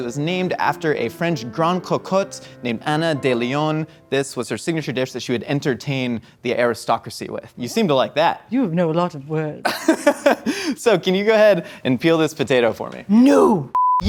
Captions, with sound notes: It was named after a French Goncourt, named Anna Deslions. This was her signature dish that she would entertain the aristocracy with. You seem to like that. - You know a lot of words. - (laughs) So can you go ahead and peel this potato for me? - No!